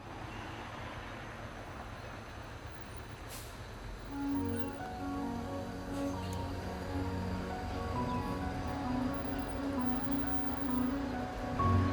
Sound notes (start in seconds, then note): 0.2 cars gently whooshing; 1.8 birds faintly chirping; 4.1 gentle music